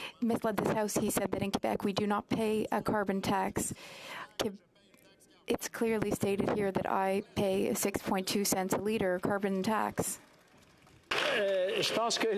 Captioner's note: speaking French